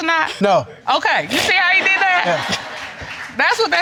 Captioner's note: all laughing